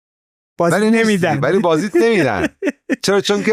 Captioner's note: laughs